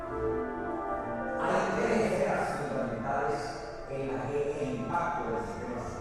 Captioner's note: speaking spanish